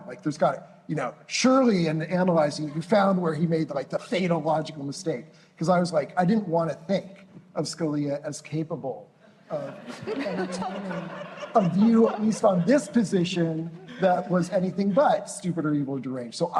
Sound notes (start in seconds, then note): 9.5 laughter